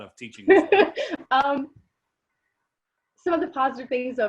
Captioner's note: laughs